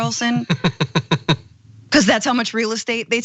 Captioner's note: laugh